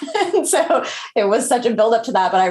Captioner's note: chuckles